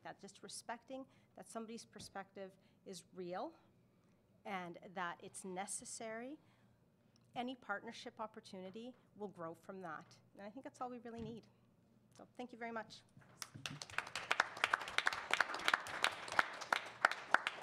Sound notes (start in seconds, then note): 13.4 attendees applaud